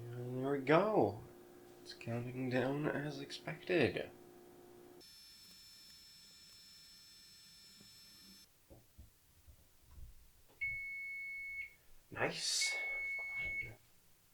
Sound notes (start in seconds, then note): 5.0 sped up whine